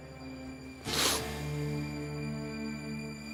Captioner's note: sniffs